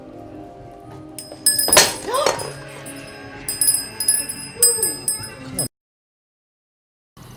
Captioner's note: sonido de campana